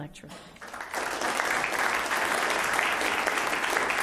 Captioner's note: applause